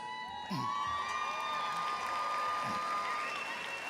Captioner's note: crowd cheers